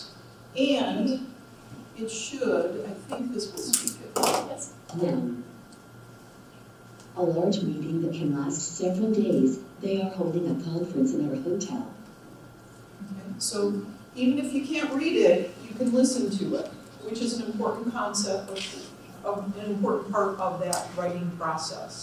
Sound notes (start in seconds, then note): 5.4 computer Voice